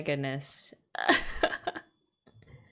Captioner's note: laughs